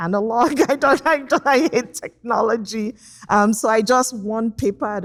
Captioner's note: laughs